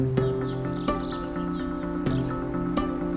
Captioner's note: birdsong